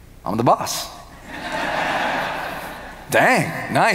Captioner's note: audience laughing